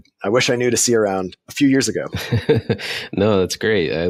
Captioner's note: laughing